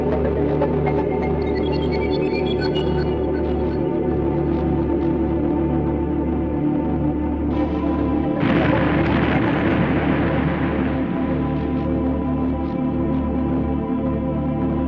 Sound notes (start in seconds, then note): 8.3 explosion booming; 10.8 suspenseful music continues